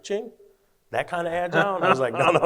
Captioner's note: both laugh